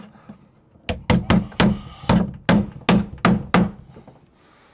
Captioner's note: hammering